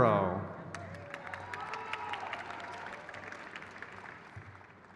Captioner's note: crowd claps